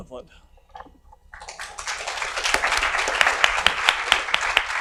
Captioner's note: audience applauds